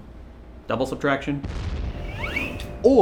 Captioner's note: boom